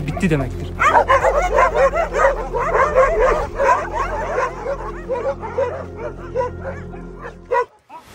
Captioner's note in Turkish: Havlama sesleri ve gerilim müziği